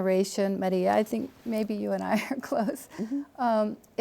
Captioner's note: chuckles